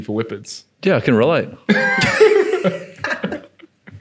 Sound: laughing

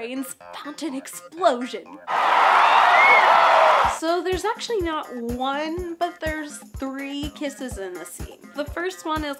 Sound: crowd cheers

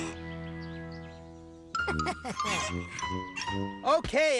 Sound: snickers

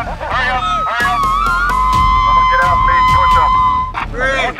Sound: voice over bullhorn; yelling, whooping

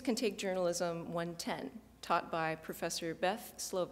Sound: none

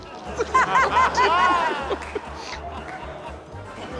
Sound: laughter

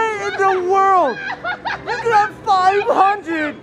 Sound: laughing

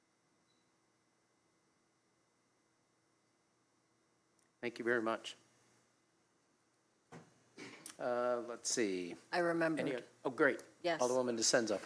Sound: moment of silence

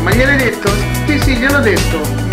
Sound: speaking Italian

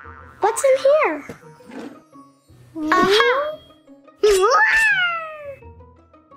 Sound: playful music; monkey screeching

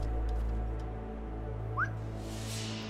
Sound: whistle

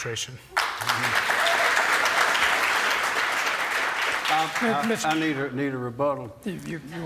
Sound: applause

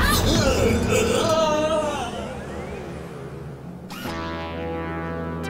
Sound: Strobo yelling

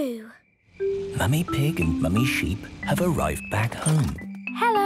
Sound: whispering

